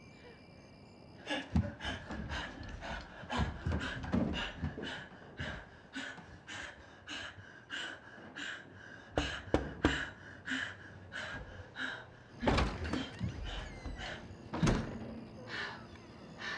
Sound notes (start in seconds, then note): 1.2 heavy breathing; 9.2 knocking; 13.4 heavy breathing